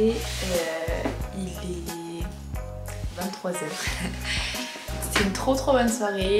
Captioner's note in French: rire